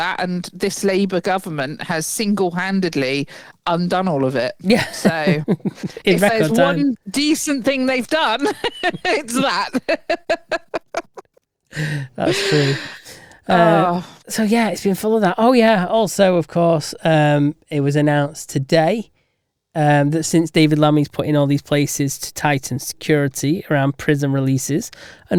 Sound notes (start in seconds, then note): 9.8 laughs